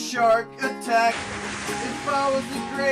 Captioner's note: splash